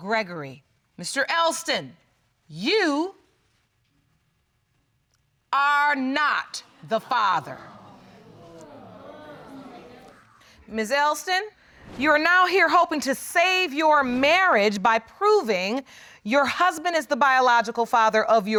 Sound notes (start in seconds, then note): 7.5 audience exclaiming sadly